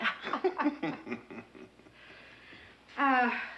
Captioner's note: both laughing